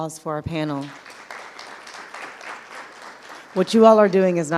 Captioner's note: audience applauding